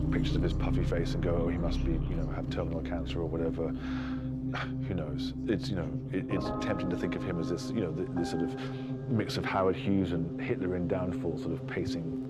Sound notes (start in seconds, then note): 5.0 scoffs